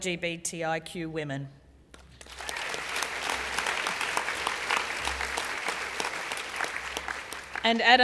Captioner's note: applause